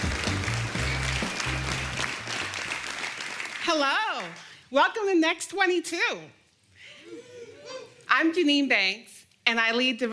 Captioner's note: applause